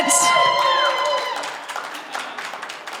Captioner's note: applause